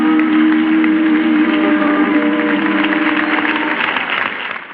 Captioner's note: applause